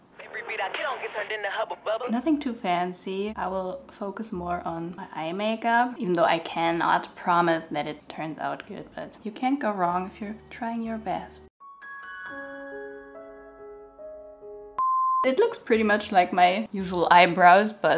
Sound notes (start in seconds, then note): 11.8 somber music; 14.8 audible beep